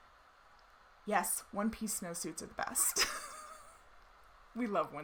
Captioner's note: laughs